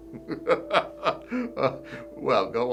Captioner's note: laughing